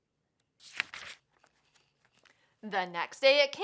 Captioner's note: paper rustles